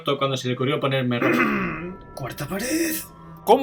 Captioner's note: clears throat